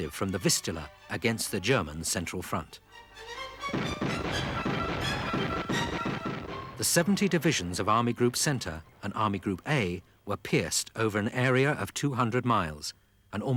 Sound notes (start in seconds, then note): 3.6 guns firing